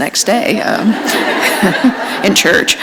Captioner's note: laughter